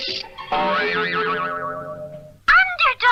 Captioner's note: boing!